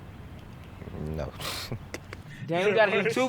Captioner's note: chuckles